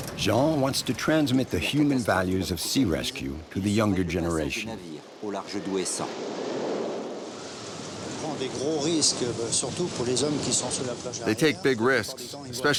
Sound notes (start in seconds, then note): 5.0 speaking in foreign language